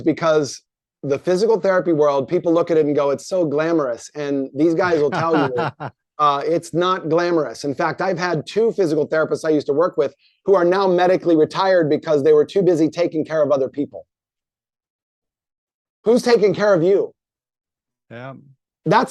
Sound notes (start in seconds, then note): 4.8 laughs